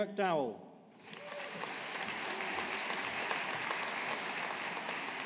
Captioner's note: audience applauding